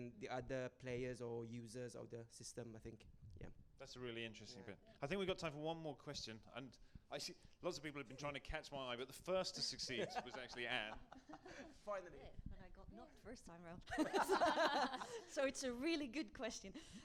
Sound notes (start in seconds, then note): 13.9 laughter